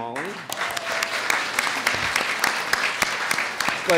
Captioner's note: audience applauds